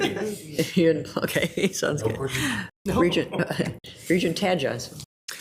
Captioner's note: laughs